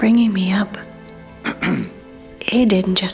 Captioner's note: Varlahm clears his throat